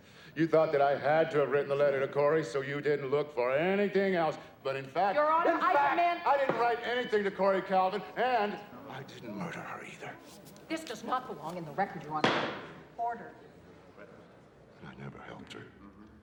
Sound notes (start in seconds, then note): 12.2 gavel banging